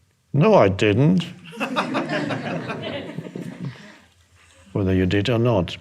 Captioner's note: audience laughing